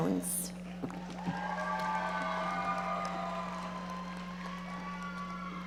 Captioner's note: audience cheering and applauding